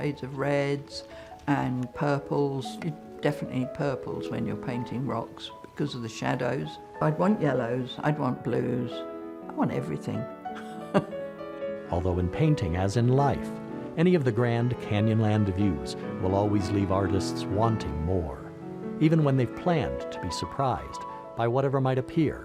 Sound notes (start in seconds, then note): 10.5 laughing